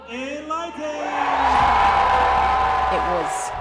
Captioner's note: crowd cheers